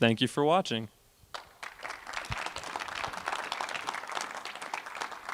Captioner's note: applause